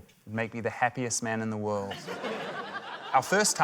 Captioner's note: laughter